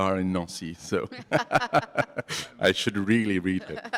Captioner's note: laughter